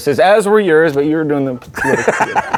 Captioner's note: laughing